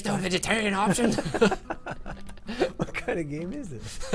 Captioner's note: laughter